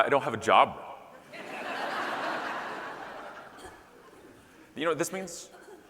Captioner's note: audience laughing